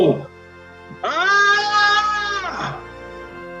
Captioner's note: screams